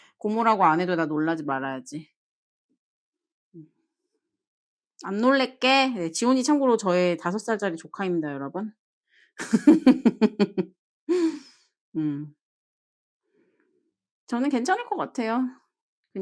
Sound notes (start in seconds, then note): 11.1 deep sigh